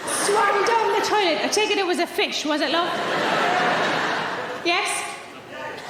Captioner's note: audience laughing